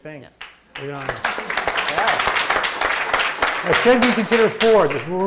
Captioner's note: audience applauding